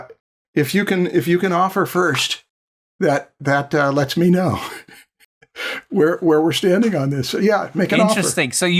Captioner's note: chuckles